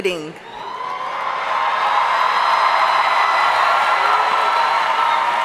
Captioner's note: audience cheering and applauding